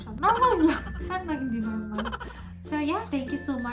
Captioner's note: laugh